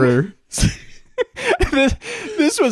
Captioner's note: both laughing